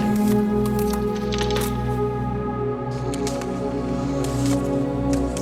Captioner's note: ice crackling